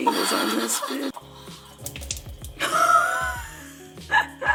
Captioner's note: laughing